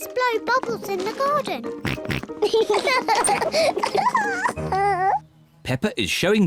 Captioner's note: oinks; both oink and laugh